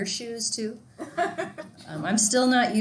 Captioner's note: student laughing